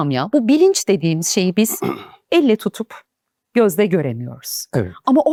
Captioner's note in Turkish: boğazını temizler